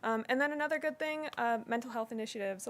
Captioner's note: none